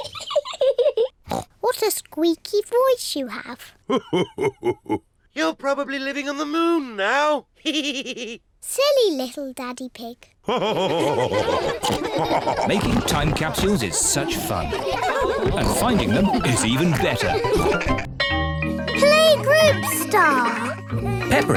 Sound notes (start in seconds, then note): 0.3 laughs; 8.3 chuckles; 10.5 all laugh